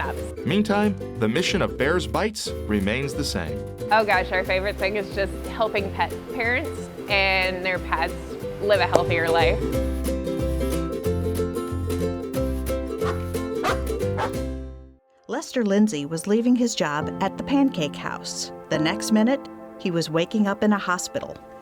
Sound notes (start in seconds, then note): 9.6 playful music; 13.6 dog barking